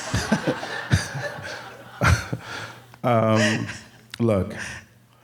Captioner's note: audience laughing